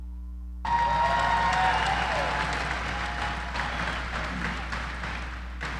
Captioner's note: audience applauding